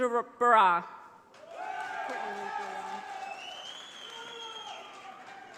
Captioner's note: audience applauding